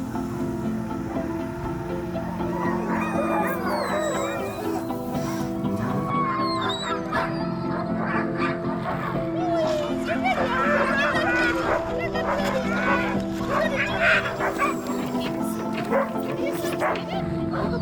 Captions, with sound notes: (soft music) (dogs barking) - Boys! You're ready, aren't ya? (dogs barking)